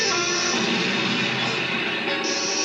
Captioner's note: boom; sizzle